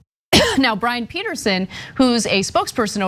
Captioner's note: cough